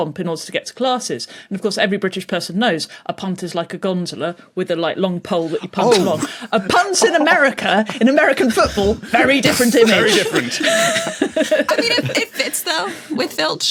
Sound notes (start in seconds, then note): 6.3 crack up; 10.8 group laughing